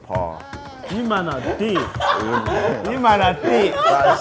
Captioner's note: laughing